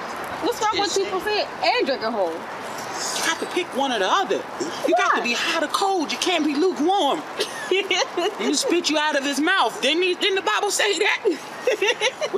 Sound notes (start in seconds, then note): 7.3 giggle